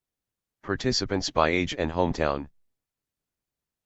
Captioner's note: screenreader voice